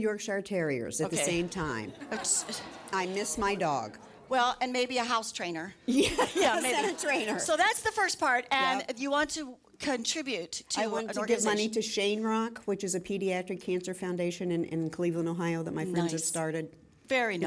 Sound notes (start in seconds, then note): 5.9 laughter